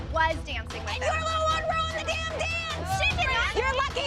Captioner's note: yelling